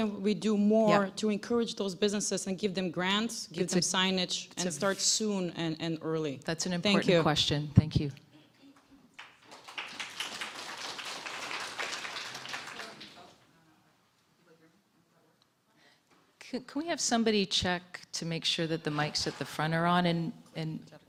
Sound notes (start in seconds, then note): 9.1 applause